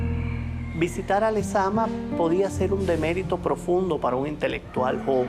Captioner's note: speaking Spanish